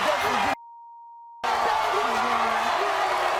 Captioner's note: beep